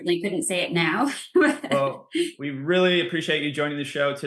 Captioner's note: laughs